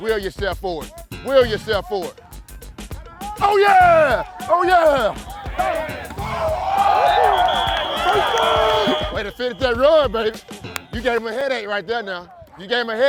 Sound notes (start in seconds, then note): 7.5 whistle